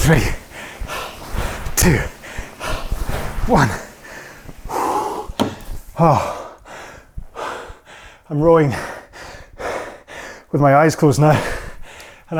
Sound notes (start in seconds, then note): 3.9 breathing heavily